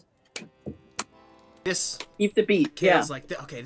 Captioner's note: clapping